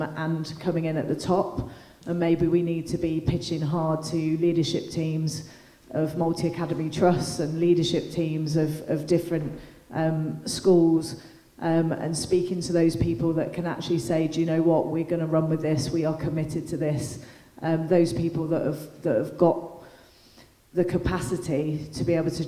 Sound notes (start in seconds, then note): none